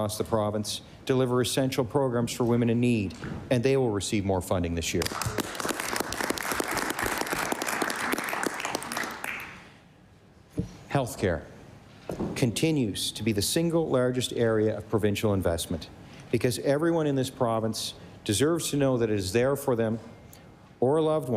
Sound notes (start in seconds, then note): 8.0 applause